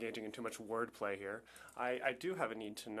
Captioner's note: speaking French